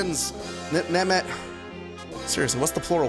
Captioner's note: sighs